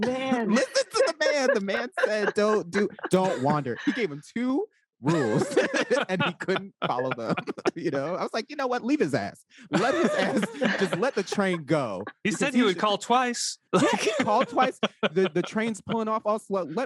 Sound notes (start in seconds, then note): 5.0 all laugh; 9.7 all laugh; 13.6 laughs